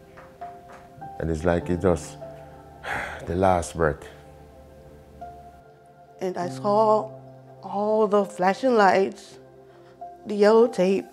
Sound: breathes deeply

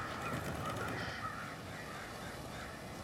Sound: birds cawing

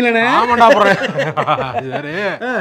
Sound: laughing

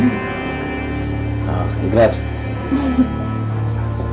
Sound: Mita chuckles

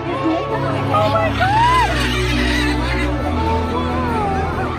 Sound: bird caws

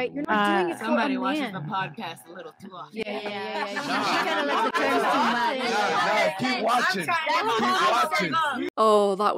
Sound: everyone erupts

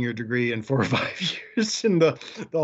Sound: chuckles

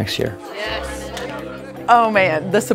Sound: hands clap

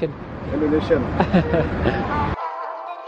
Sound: giggles

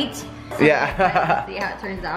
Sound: laughs

